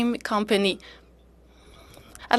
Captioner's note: speaking French